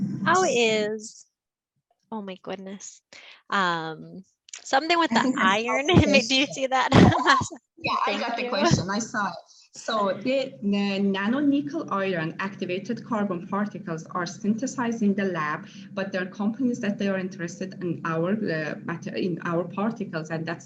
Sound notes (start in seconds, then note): 6.8 laughs